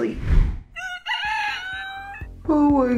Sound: rooster crowing

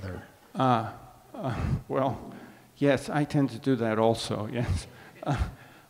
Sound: chuckles

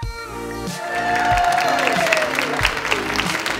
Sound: audience cheering

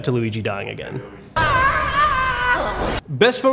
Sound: screams

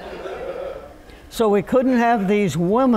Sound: laughter

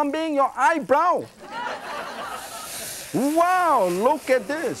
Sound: laughing

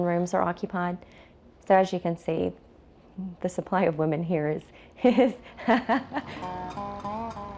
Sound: laughs

